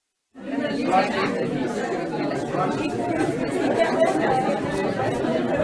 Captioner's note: people chattering indistinctly